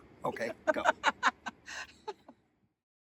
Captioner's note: person behind camera laughing